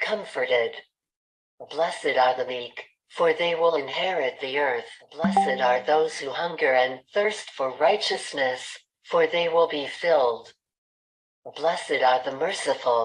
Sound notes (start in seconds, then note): 5.2 chat notification sound